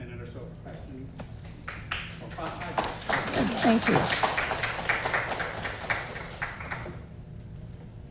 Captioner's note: audience Clapping